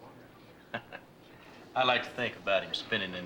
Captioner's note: chuckles